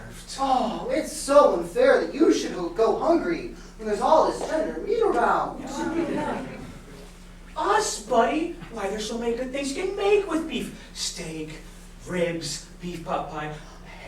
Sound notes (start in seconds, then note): 6.3 speaking grammelot